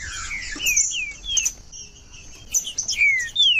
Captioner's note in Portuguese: trinca ferro cantando